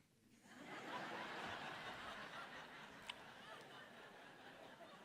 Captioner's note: audience laughing